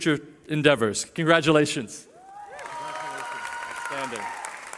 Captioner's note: cheering